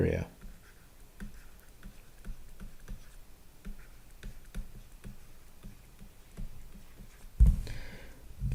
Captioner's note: writing